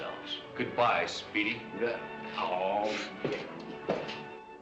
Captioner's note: moaning